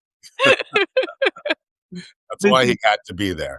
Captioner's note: laughing